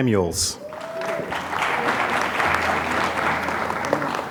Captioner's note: applause